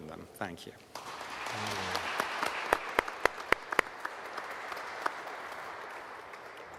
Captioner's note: audience and panelists applauding